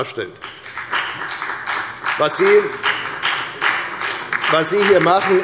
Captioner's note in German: Beifall bei der FDP